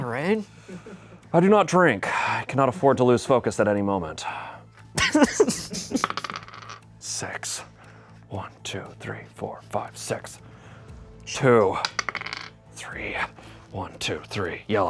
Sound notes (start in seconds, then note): 2.3 sighs; 5.0 laughs